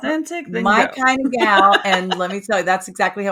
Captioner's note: laughing